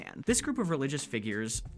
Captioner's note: none